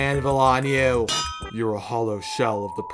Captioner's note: anvil sound